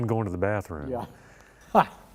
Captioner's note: laughter